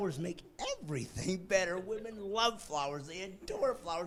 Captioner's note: laughing